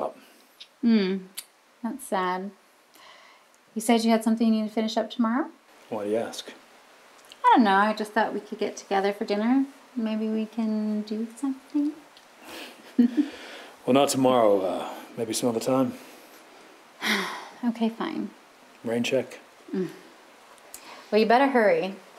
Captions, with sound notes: Hmm. That's sad. You said you had something to finish up tomorrow? Why do you ask? I don't know, I just thought we could get together for dinner. Maybe we can do something. [chuckles] Well, not tomorrow. Maybe some other time. [sighs] Okay, fine. Rain check? Well, you better hurry.